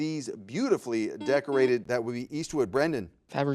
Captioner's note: buzzer buzzes